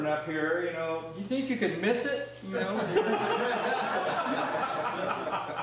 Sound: laughter

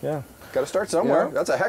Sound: voiceover

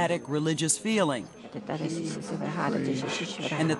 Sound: speaking in tongues

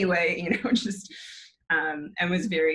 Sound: chuckles

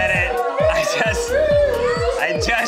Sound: imitating siren

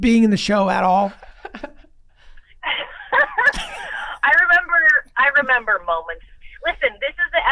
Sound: laughs

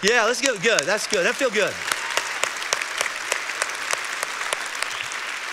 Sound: congregation applauding

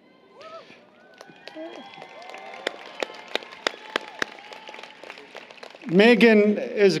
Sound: applause, Cheering

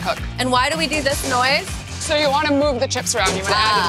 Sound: clattering

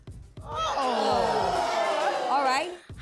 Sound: audience groans

